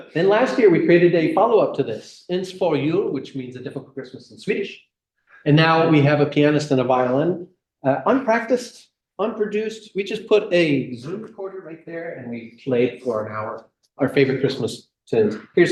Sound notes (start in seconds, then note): 2.1 speaking swedish